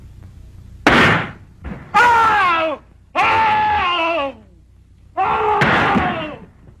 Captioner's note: gun fires; man screams; gun fires